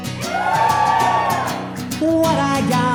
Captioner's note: audience cheering